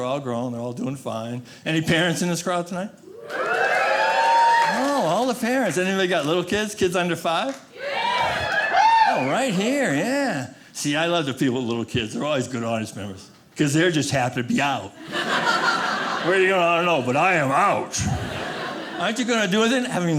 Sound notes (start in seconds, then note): 3.1 audience cheering; 7.7 audience cheering; 15.0 audience laughing